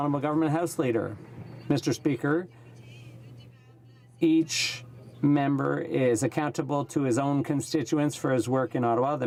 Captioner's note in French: voix de l'interprte